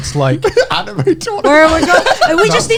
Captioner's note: laughs